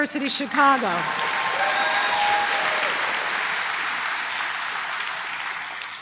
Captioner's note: applause